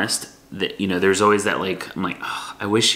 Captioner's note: sighs